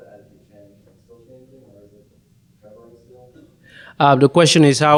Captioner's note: murmurs